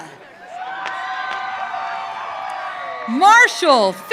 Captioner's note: audience cheering